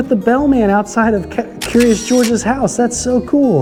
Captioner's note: shutter clicks